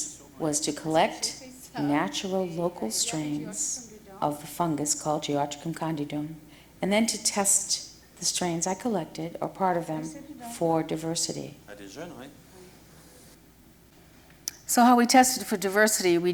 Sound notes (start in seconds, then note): 11.8 speaking french